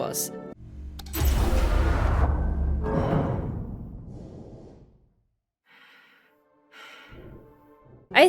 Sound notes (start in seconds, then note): 0.7 sounds of an airlock opening; 1.0 breath